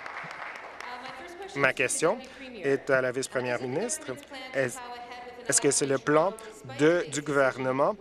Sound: applause

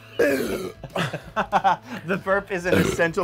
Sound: burping

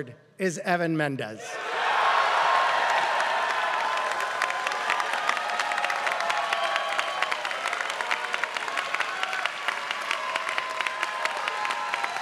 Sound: applause

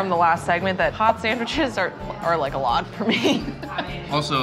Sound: laughs

